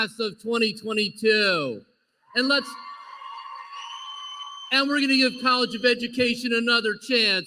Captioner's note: applause